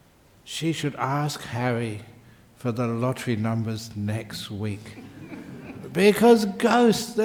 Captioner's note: laughter